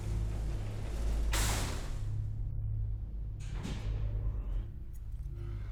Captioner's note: gentle foreboding music; elevator door rattles